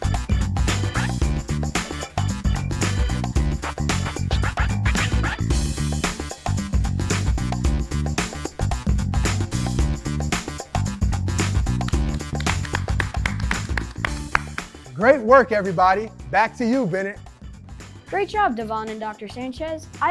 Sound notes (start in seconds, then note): 0.2 upbeat music continues; 10.3 upbeat music continues; 11.8 applauding